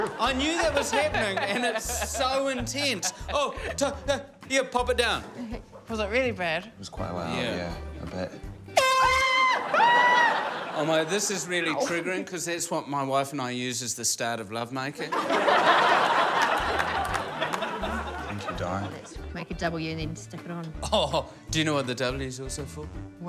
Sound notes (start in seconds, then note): 3.7 stammers; 8.7 air horn blares; 15.0 laughter